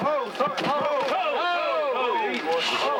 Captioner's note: men exclaiming